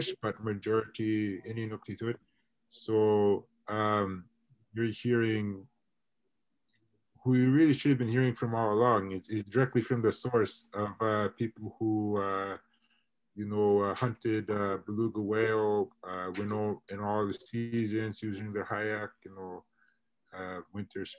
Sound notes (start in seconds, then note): 13.0 internet distortion; 18.4 internet distortion